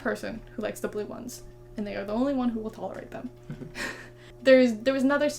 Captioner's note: laughs